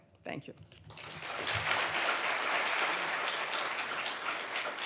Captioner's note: audience applauding